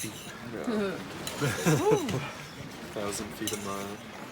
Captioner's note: laughing